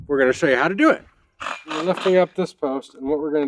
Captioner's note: drilling